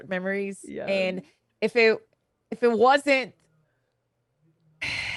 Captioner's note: sighs